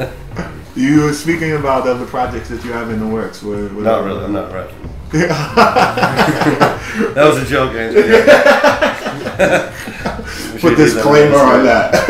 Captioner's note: laughter